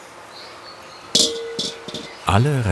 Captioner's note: dull clinking